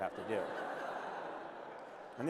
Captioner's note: laughter